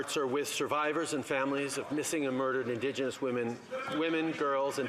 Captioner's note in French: voix de l'interprète